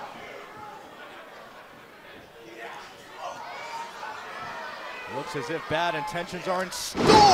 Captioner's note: crowd chatter